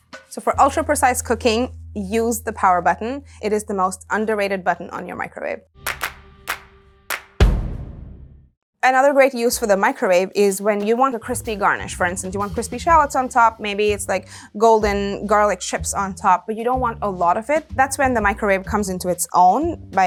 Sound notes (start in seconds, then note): 5.8 hands clapping; 7.1 drum thudding